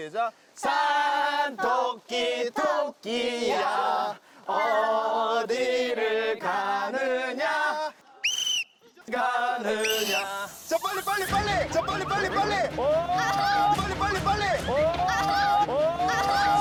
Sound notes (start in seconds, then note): 8.2 whistle